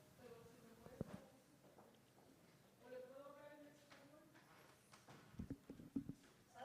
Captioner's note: chattering in foreign language